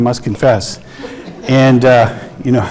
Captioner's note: audience laughing